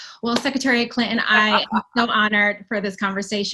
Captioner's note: laughing